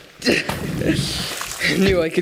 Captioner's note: water splash